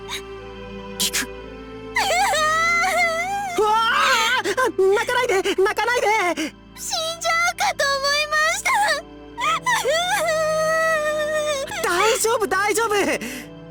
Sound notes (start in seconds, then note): 1.9 sob; 10.4 bawl